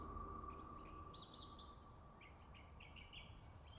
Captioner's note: birds chirping